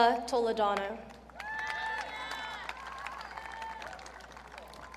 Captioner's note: audience cheering